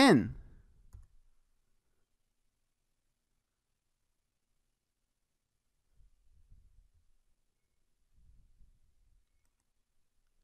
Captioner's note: silence